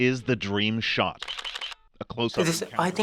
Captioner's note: camera shutters click